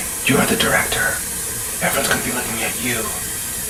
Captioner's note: none